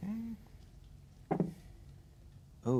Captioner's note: dice rolling